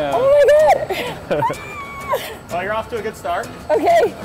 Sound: laughing; squealing

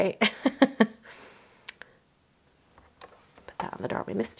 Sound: laughs

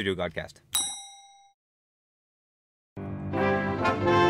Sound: ding

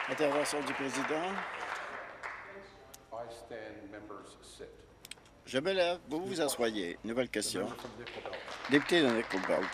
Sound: applause

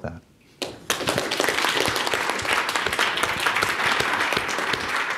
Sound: audience applauding

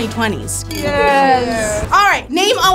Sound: glasses clinks

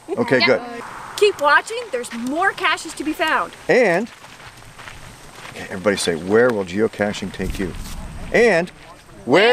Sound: whispers

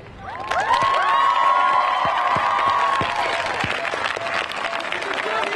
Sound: audience cheering and clapping

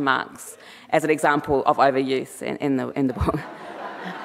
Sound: chuckles

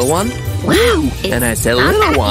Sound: grunts, sounds of excessive effort

